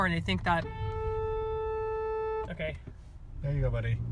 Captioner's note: hooooooooonnnnkkkk